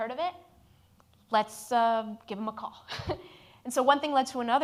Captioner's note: laughs